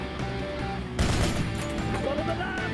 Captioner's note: gunshots